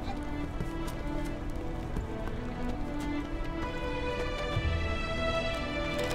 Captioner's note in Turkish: Ayak Sesleri